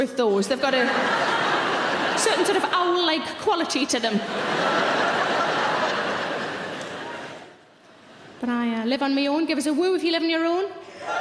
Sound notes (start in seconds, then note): 4.0 audience laughing